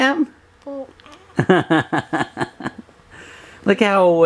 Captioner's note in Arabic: يضحك